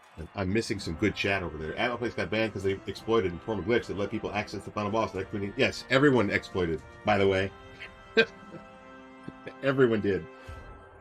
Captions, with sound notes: I'm missing some good chat over there- "Atmoplex got banned because they exploited a former glitch that let people access the final boss." Yes, everyone exploited, by the way! *chuckle* Everyone did!